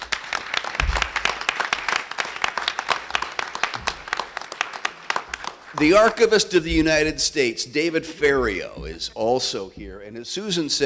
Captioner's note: applause